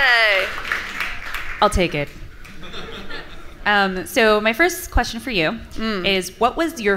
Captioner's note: laughter